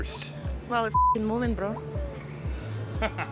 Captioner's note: beep